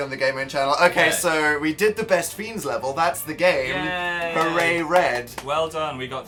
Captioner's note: clapping